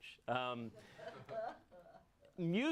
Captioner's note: audience laughs